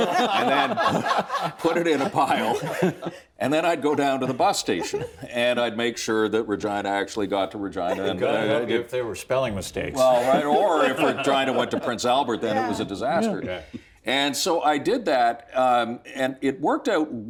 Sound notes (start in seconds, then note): 0.0 laughter